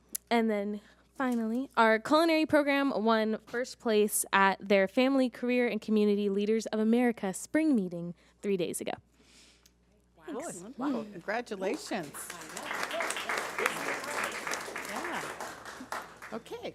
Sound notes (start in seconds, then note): 11.6 audience applauding